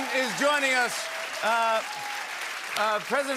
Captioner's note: cheering and applause